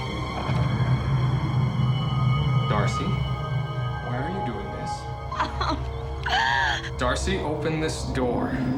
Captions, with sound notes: Darcy. Why are you doing this? (crying) Darcy, open this door.